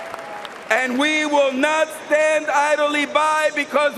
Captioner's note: cheering and applause